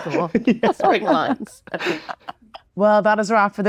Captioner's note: laughing